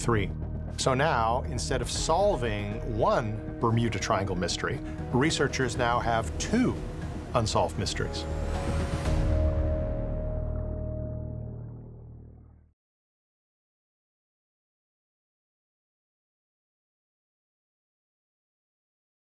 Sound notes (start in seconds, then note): 10.0 water bubbling